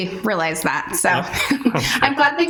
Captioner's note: chuckles